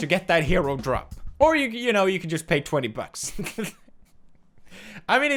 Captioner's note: laughs